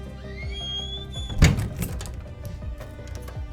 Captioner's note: upbeat suspenseful music; door thumps; upbeat suspenseful music